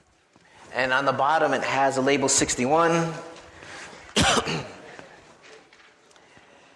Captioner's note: coughs; audience chattering